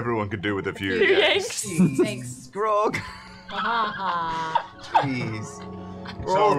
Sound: laughter

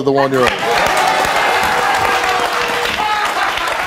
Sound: audience applauding

